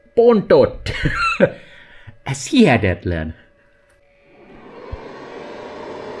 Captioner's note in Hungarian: nevetés